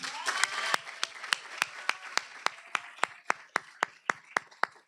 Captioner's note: applause